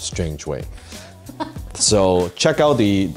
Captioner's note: laughs